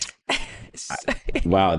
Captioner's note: laughing